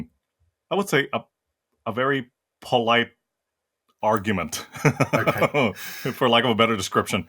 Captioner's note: laugh